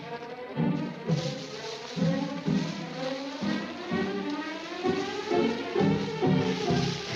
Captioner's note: leaves rustling; dramatic music continues